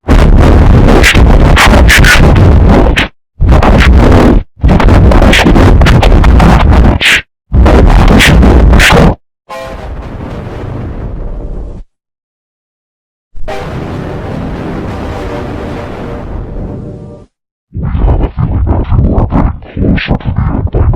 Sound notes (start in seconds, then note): 9.6 Giga 3D Shadow Windows XP Shutdown Sound; 13.4 Giga 3D Shadow Windows XP Startup Sound